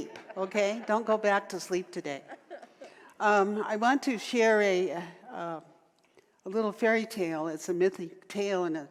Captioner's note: audience laughter